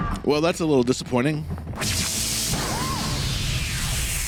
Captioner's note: none